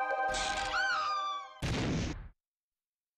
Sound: woman screams

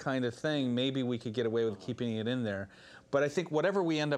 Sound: none

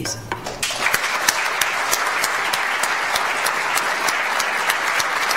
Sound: audience applauds

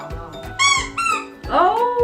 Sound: squeaking

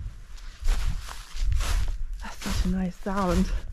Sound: crunchy footsteps

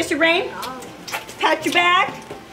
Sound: kisses

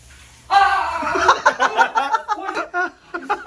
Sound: screams

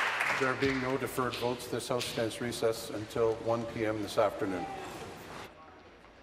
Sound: applause

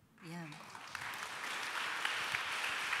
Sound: applause

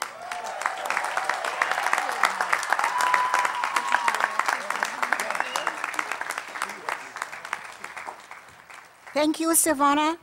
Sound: applause

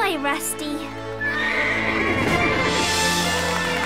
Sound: neighing; cheering

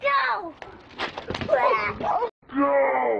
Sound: girl moans

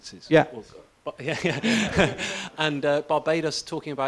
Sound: laughs

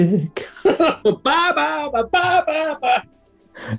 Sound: laughing

